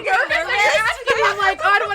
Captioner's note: laughing